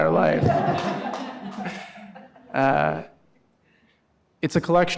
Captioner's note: audience laughing